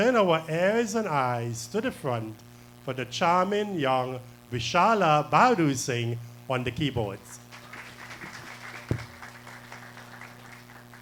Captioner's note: applause